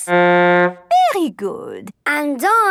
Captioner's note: horn blowing